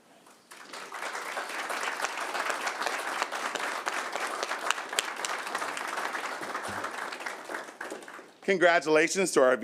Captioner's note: applause